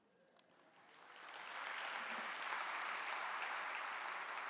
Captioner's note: clapping